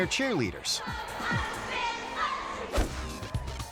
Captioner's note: cheerleaders chanting; dot whooshing